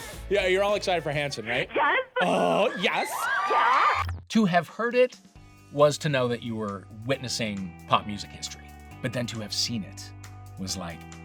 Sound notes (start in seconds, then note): 2.2 crowd screams